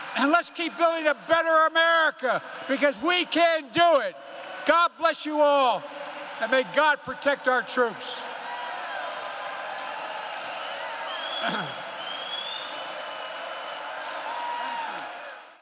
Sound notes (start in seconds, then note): 8.8 applause